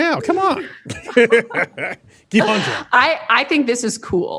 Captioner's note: laughing